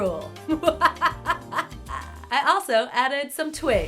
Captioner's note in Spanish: Risa macabra